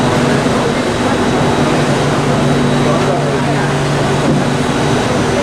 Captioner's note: loud aircon ventilation noises from train; station ambience